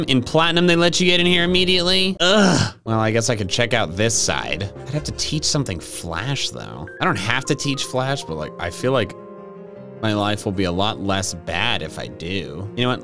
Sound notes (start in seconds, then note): 2.2 groans